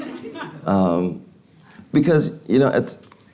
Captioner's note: audience laughing